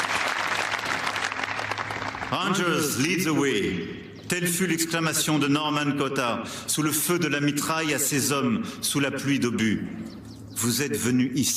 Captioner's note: applause